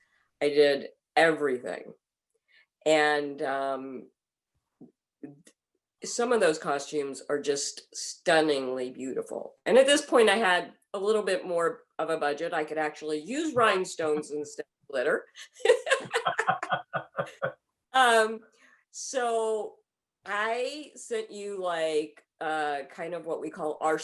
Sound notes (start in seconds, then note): 15.7 laughing